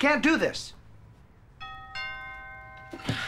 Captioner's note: doorbell rings